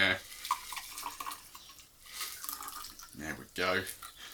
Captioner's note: liquid pouring